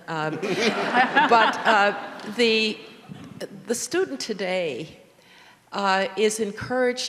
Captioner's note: audience laughing